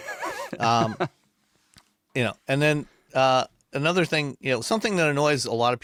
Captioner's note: laughing